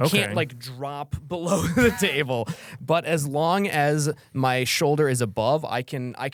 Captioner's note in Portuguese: risos